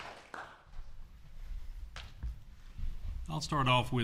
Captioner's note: applause